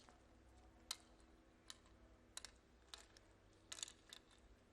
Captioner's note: game piece clacks